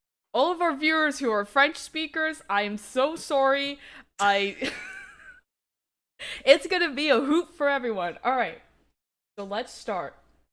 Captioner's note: wheeze